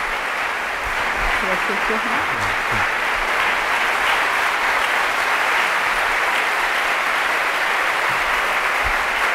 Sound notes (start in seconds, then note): 1.3 speaking in foreign language; 5.4 attendees applauding